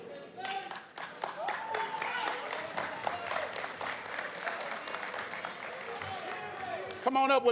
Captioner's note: applause, cheers